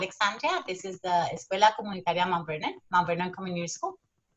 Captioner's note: speaking Spanish